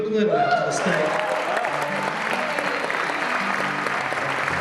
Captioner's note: crowd applauding